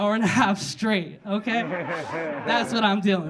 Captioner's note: audience laughing